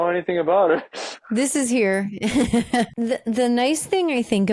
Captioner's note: laughing